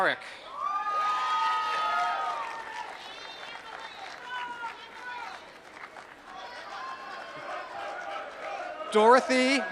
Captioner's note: applause